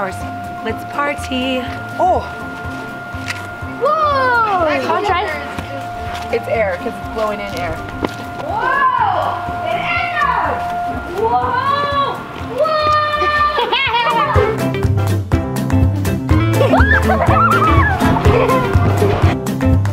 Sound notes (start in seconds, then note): 12.4 screaming; 15.1 playful music; 16.5 laughing